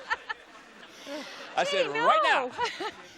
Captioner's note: laughs